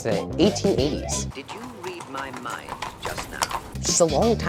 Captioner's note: male educational film voice